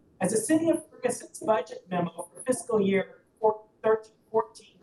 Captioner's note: audio cuts in and out